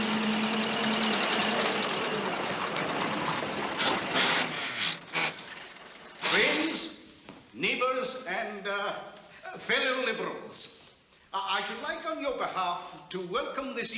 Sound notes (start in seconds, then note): 3.8 grinding, engine stops